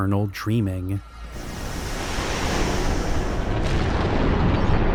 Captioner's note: whooshing and rumbling